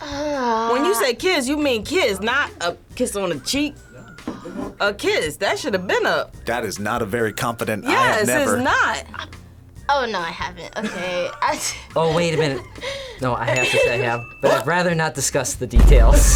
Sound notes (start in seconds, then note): 10.6 laughs